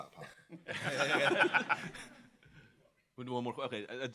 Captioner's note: laughter